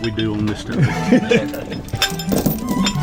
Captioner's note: laughs; light music